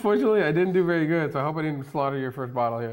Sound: laughs

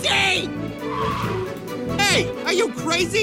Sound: tires Screech

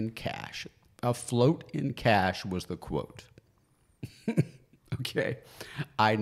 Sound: laughs

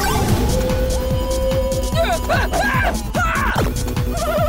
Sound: grunting

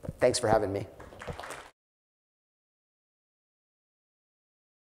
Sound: audience applauding

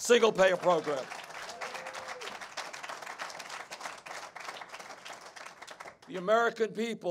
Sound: applause

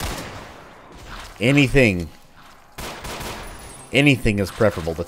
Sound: Glock firing

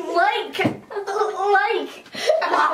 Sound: laughing

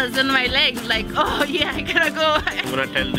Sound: laughs

